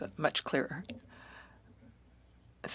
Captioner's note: speaking French